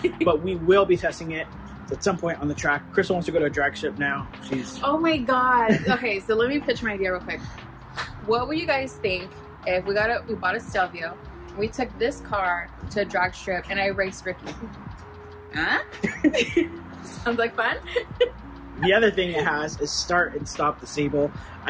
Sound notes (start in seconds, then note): 15.8 laughs; 18.7 laughs